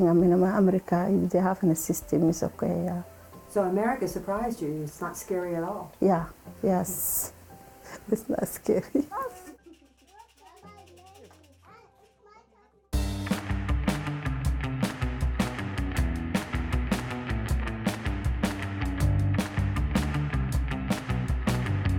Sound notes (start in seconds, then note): 10.5 collective chatter